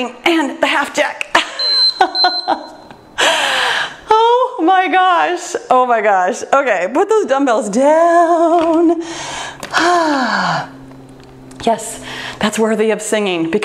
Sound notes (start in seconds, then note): 1.6 timer beeps; 1.6 laughs